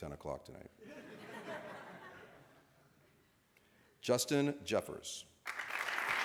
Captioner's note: laughter; applause